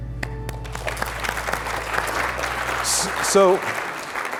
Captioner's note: all applauding